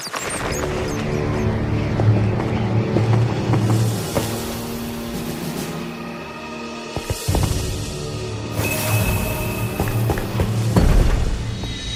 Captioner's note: bat squeaks